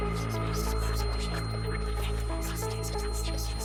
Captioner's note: high-pitched ringing, whispering voices